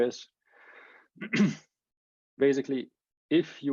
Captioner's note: clears throat